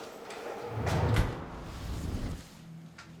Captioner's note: whoosh